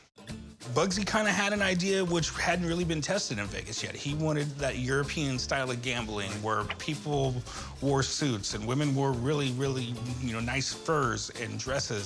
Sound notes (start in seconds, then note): none